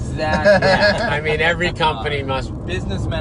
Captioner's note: laughing